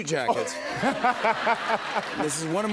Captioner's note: laughter